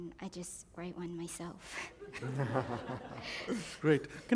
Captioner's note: laughter